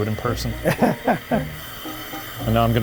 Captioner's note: laughing